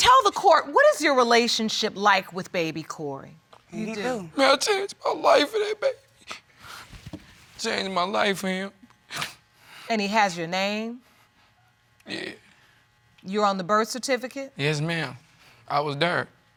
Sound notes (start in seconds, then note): 3.8 sobbing